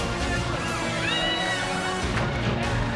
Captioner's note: chatter; screams